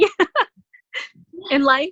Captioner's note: laughing